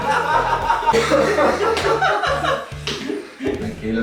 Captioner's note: laughs